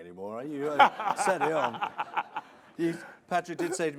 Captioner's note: laughing